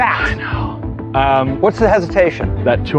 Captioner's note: gasping